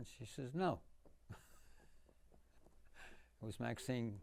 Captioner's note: laughing